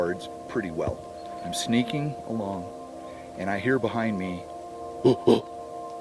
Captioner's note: huffs